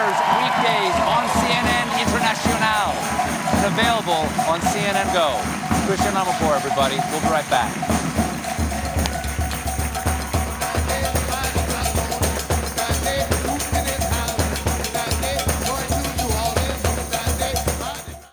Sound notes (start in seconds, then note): 10.4 applause